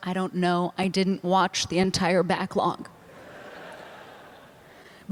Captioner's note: laughter